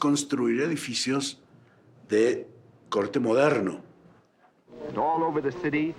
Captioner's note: speaking in foreign language